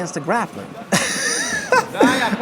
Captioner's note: laughs